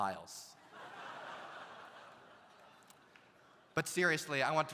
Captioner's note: audience laughs